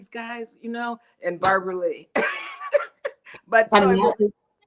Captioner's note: laughs